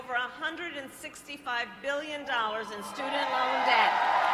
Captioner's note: applause